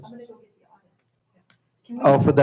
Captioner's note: hushed speaking away from microphone